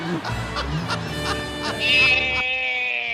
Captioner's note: Ru-Paul laughing